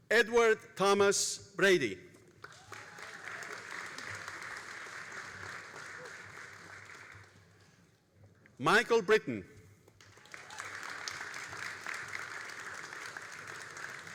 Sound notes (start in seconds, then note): 2.3 all applauding; 9.9 all applauding